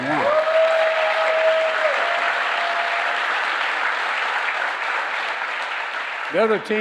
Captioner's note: applause